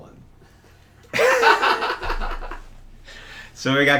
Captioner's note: both laughing